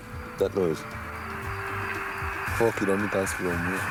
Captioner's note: signal buzzes; man speaking a foreign language